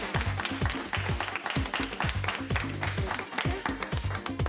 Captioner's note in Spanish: Aplausos